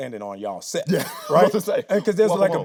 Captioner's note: laughing